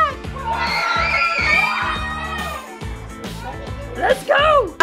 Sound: children cheering

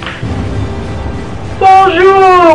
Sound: none

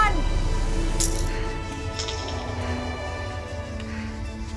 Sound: taking deep breaths

